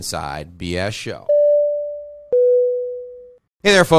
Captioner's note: beeping